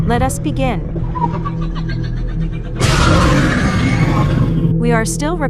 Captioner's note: Demogorgon roars